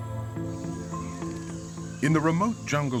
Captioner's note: insects buzzing, birds chirping